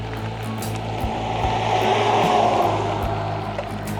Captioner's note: truck passing